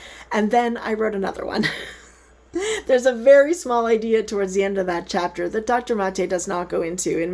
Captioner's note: chuckles